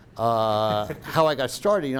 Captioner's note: laughing